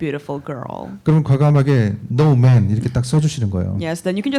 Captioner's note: speaking korean